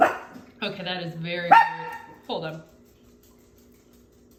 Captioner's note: bark